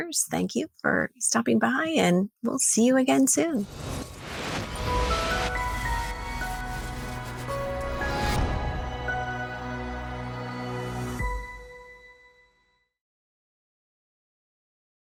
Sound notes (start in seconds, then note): 3.6 whooshing; 4.7 soft music